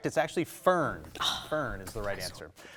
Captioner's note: sighs